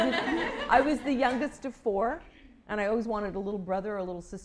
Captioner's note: laughter